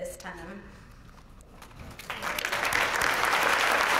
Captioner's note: applause